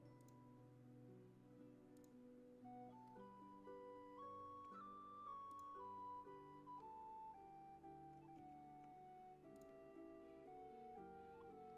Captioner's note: mouse and keyboard clicking